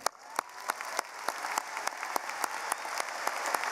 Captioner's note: applauding